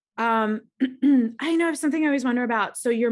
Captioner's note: coughs